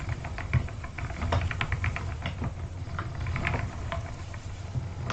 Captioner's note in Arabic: صوت قعقعة العجلة